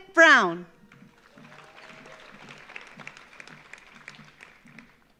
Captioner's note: audience applauds